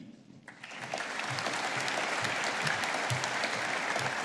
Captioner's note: audience applauding